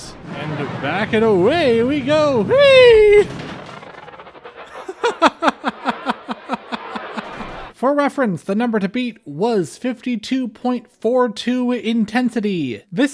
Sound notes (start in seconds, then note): 4.6 laughter